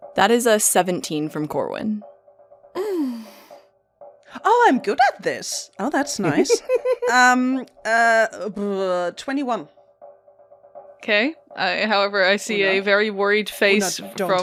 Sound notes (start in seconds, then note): 6.3 laughter